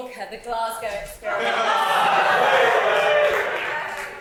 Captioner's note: audience cheers and "waheeyyyy"s